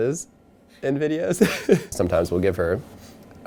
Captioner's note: laughing